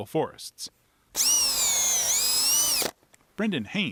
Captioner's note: drill whirs